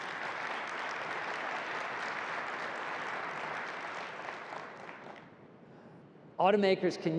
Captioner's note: applause